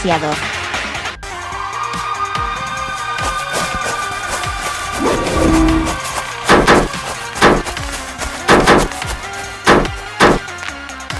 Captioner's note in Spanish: Sonido del Viento